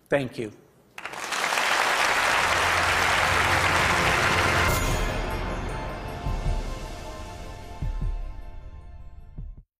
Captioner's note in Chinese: Applause; 掌聲